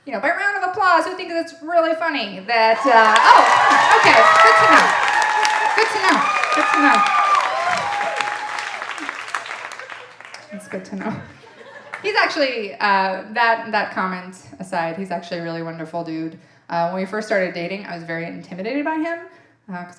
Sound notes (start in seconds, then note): 5.4 audience applauding and cheering